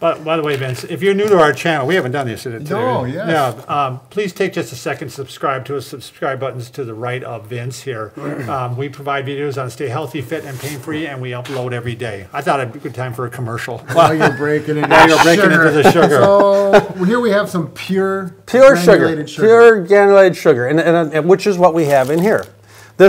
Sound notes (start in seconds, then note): 13.9 laughing